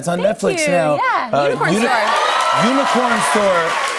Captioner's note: cheers